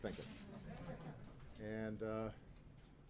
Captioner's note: laughter